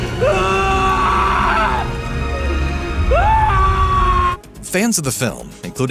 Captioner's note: screaming